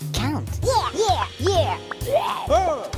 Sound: pigeon yelling

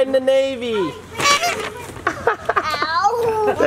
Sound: horn honks

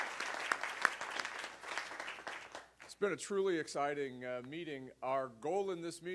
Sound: applause

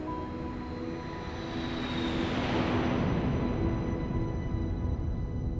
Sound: plane flies over

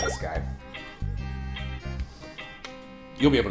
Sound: vague disappointment

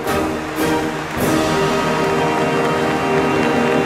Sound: applause

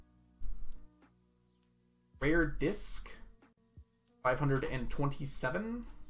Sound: none

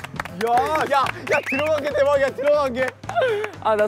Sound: applause

